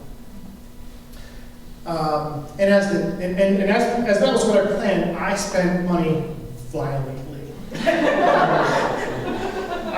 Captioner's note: laughter